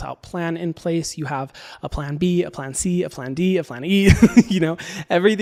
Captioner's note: laughs